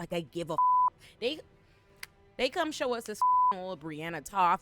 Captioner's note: beep; beep